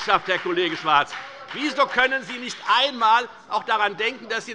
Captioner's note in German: Heiterkeit und Beifall bei der FDP - Zurufe von der CDU